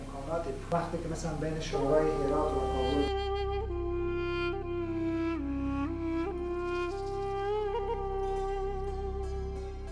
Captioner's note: speaking in Dari